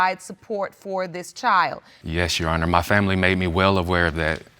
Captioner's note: none